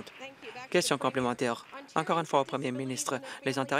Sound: applause

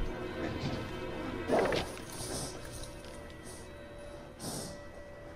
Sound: thestral breathing heavily

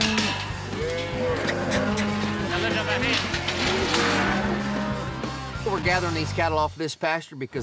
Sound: cows moo

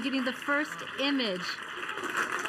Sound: applauding

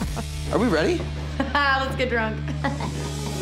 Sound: laughing

